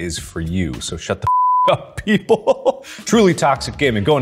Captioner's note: laughs